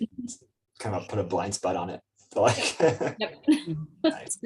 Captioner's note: laughs